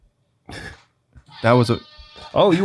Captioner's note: air horn blares